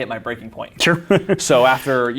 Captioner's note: laughs